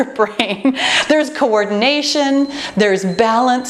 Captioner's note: timer beeps